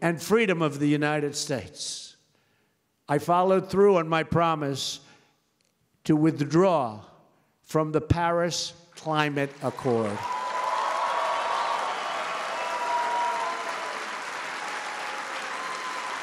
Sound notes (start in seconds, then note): 10.3 applause